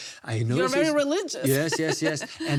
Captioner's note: laughs